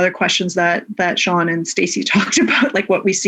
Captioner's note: laughs